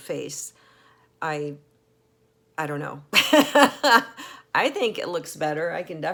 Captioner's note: laughs